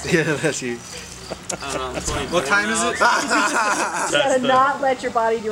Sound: crowd laughs

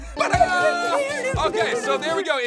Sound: beeps; beeps, sing-song

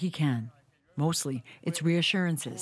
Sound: speaking foreign language

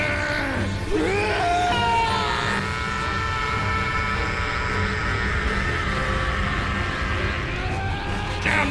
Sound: charging ki and screaming

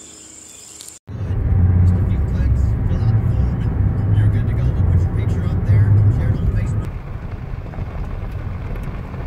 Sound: driving noises; gravel crunching

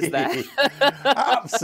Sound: laughter

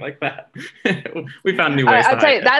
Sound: giggling

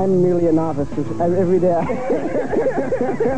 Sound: cracking up

